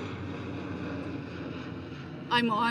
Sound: airplane engine

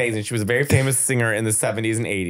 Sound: laughing

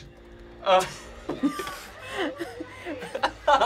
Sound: both laugh

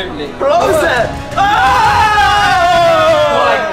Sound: screaming

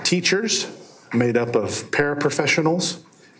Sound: none

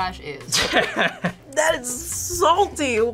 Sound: laughs

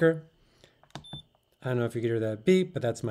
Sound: scale beeps

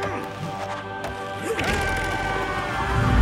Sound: yelling

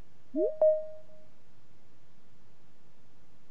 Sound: digital chime

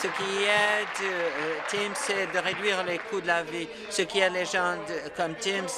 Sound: applause

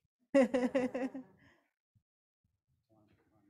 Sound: laughs

